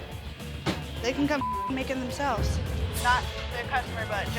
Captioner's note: beep